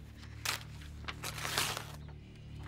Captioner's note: paper tearing noise